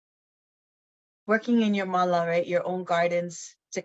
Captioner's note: speaks in foreign language